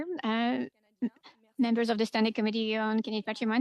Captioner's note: speaking French